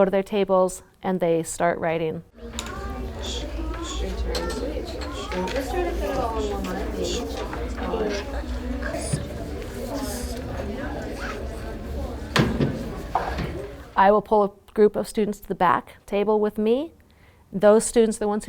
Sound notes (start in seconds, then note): 2.3 students quietly sounding out words